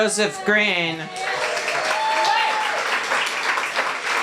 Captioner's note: applause